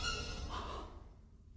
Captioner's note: gasps